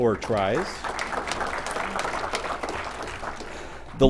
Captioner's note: applause